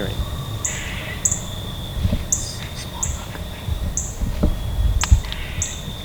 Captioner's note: whispering